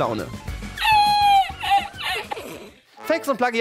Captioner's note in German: Hohes Lachen